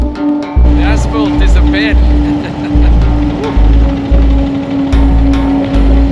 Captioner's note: laughter